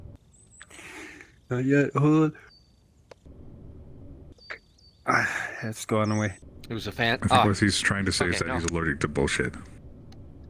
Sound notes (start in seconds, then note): 5.0 sighs